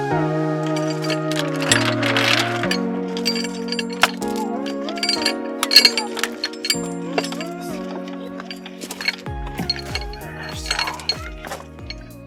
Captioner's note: chain clattering